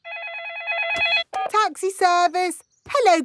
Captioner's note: phone ringing; dialing